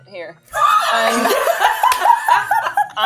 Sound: participants laughing

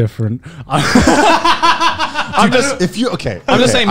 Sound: men laughing

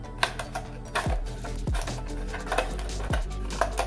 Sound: cutting plastic

